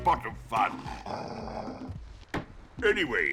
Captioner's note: daxter mockingly growls